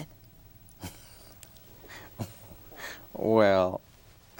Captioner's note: chuckling